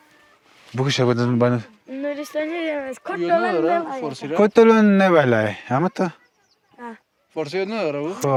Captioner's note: Talking Nuristani